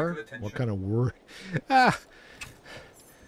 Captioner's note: laughs